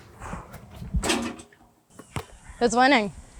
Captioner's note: basketball hoop clatters